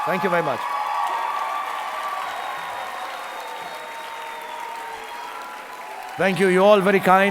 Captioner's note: audience applauding